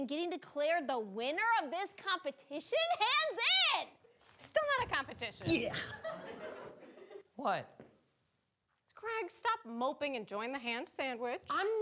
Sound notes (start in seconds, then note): 5.8 audience laughing